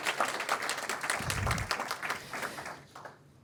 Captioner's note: applause